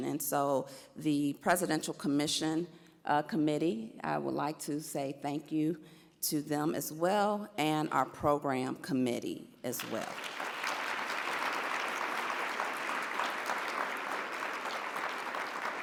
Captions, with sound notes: and so the Presidential Commission Committee, I would like to say thank you to them as well and our program committee as well. (audience applauds)